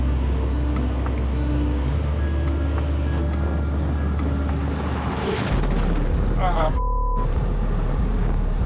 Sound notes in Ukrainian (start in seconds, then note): 5.2 звук вибуху скида з дрона